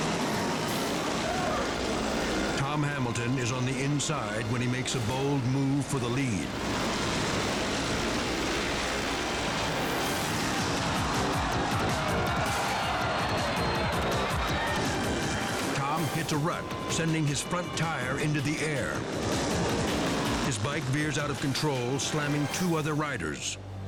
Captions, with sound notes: (bikes rumbling) Tom Hamilton is on the inside when he makes a bold move for the lead, (bikes rumbling) (bikes crashing) (dramatic music) Tom hits a rut sending his front tire into the air. His bike veers out of control, slamming two other riders.